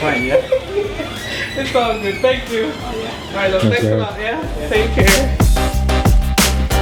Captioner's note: laughs